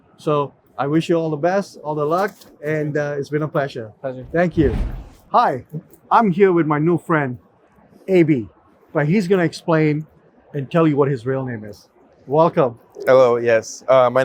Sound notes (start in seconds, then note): 4.2 transition whooshes